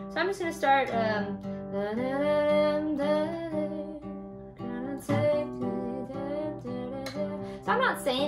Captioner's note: humming